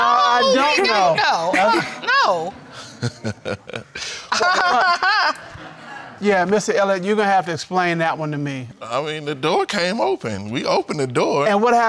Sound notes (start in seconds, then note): 2.6 laughs; 4.6 laughs mockingly